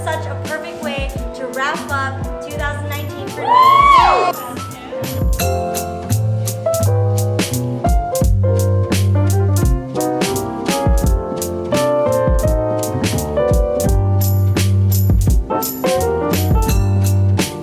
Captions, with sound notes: - This is such a perfect way to wrap up 2019. (cheering) (soft joyful music)